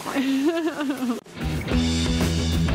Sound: laughs; rock music

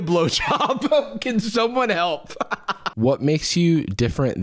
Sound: laughs

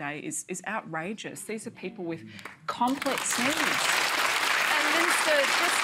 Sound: applause

